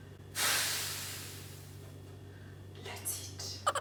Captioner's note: exhales sharply